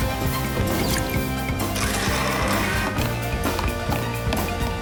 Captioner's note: blender whirring